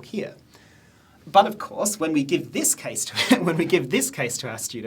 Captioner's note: soft laughing